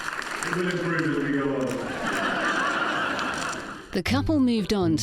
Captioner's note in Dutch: publiek lacht